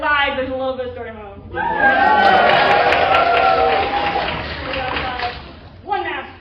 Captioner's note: cheering